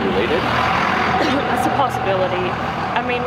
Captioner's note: coughs